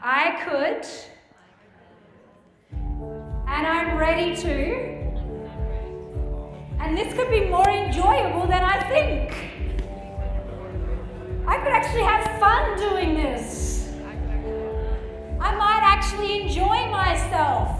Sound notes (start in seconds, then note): 1.4 group muttering